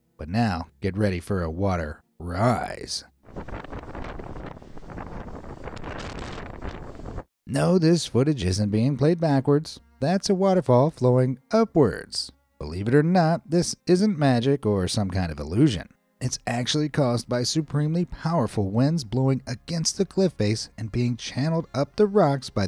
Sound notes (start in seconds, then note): 3.2 wind blowing